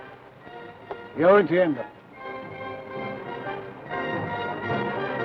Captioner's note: speaks foreign language